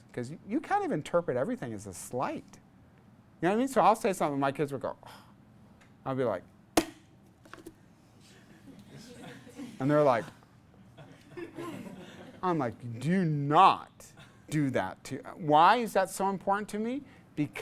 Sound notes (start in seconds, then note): 8.8 class laughs